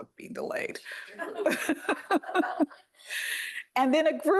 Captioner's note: laughter